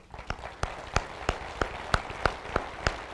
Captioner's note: applause